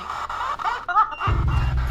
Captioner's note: spirit box voice